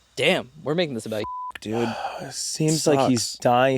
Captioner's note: beeping